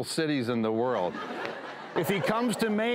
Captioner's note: audience laughs